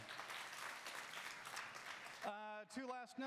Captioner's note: audience applause